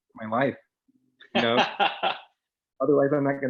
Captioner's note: laughing